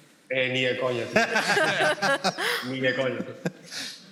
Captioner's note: laughter